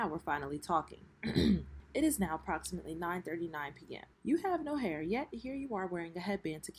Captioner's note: clears throat